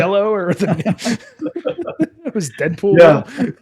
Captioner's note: laughing